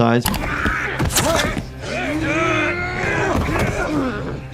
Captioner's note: fighting and grunting